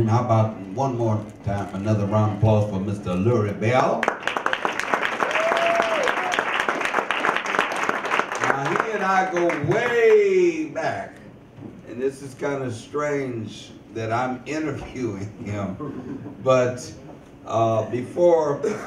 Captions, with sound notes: How about one more time, another round of applause for Mr. Lurrie Bell. (audience applause) (audience cheers) Now, he and I go way back, and this is kind of strange that I'm interviewing him (chuckles). But, before